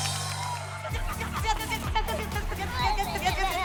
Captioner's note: squealing